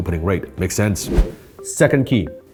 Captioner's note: whoosh